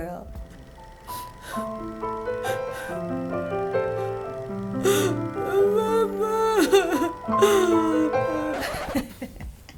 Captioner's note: sad music; weeping; chuckling; record scratches